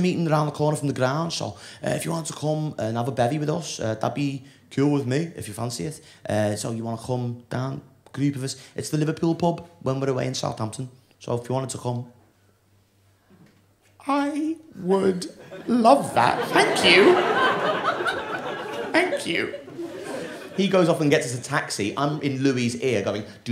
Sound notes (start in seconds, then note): 13.7 voice breaking